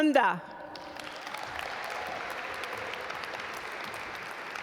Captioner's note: audience applaud